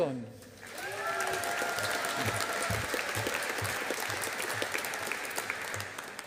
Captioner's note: audience applauding